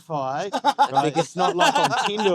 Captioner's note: laughing